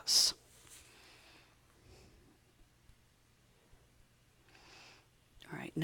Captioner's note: silent